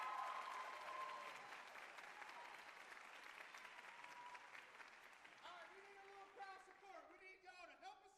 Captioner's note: cheers and applause